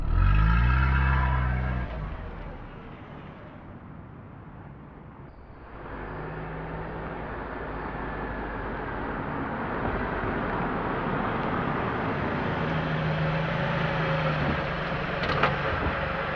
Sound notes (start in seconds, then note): 0.0 car pulls away; 10.1 car parks loudly